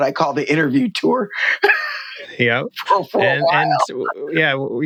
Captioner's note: laughter